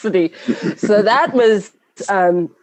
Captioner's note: laughing